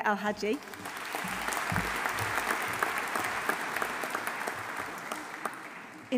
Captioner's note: audience applauding; audience cheering